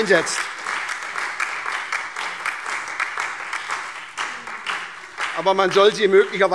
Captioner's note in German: Beifall SPD, Freie Demokraten und DIE LINKE